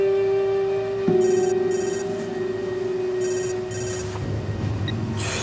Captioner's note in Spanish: Suena el celular